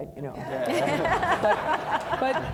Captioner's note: audience laughing